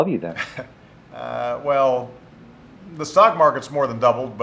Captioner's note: laughs